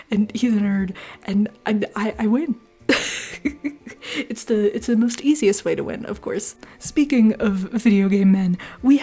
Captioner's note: laughter